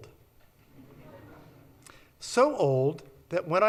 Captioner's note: audience laughs